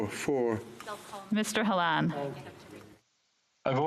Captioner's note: speaking French